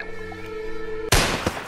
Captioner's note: gunshot